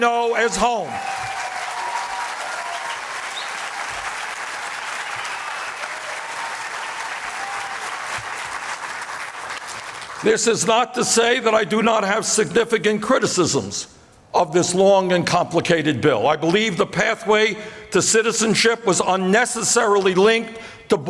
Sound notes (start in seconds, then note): 0.8 applause